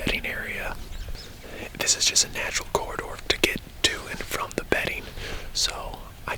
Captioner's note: whispering